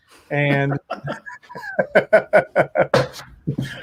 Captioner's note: laughter